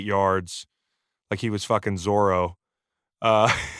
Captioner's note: laughs